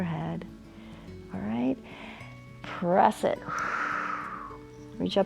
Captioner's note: exhales